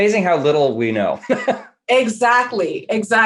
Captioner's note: laughing